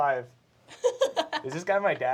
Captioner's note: laughter